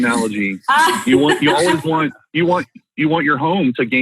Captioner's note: laughing